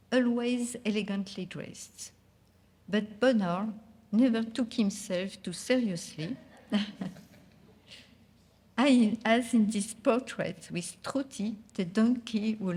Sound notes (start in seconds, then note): 6.7 audience laughing